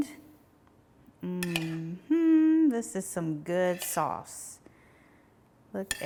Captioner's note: hums